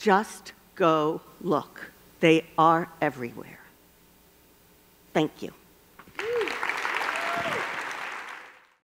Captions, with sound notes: Just go look. They are everywhere. Thank you (applause)